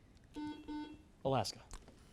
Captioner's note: buzzer